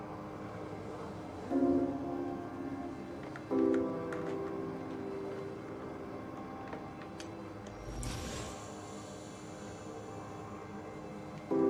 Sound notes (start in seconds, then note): 7.8 backpack whirs